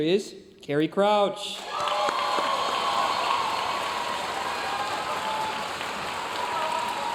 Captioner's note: audience cheering and applauding